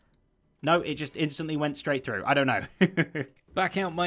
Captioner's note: chuckles